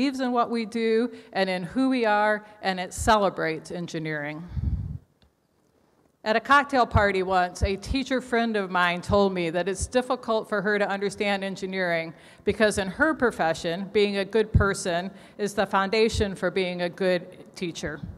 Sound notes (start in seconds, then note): none